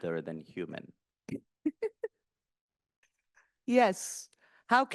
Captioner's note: laughing